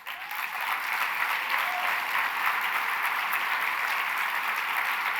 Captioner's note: applause